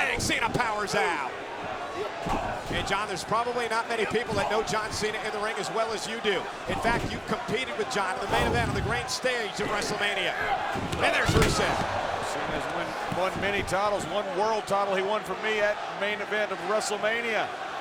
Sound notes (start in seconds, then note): 0.0 hands thudding; 2.2 blows thudding; 8.2 graphics whooshing; 10.6 body thudding